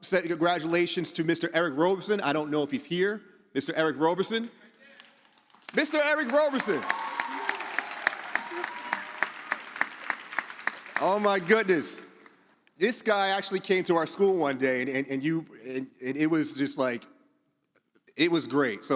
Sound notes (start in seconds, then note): 7.2 audience applauds